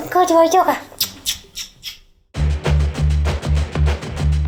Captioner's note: smooches